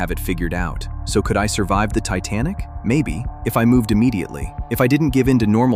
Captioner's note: thoughtful